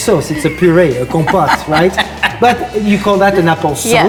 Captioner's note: laughs